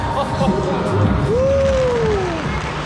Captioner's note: laughing